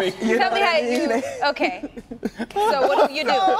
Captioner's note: laughter